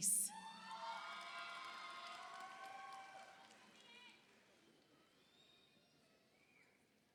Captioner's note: audience cheers; audience applauds